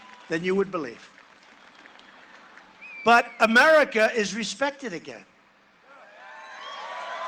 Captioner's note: cheering and applause